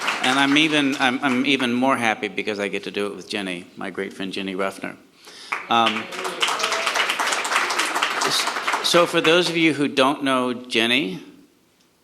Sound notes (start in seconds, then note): 0.0 audience applauds; 5.4 audience applauds